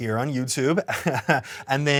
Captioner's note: laughs